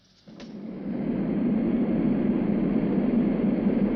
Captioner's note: airplane whirring